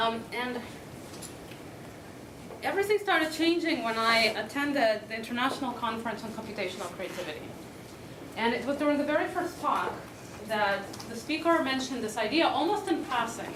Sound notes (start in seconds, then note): none